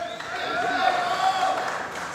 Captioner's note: applause